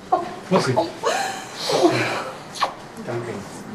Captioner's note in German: Sie weint